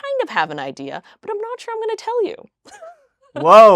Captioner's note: laughs